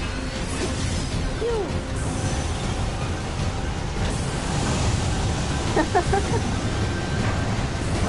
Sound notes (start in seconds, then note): 5.7 laughs